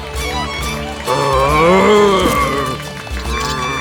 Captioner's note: grunts